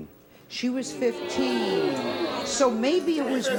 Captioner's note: audience exclaims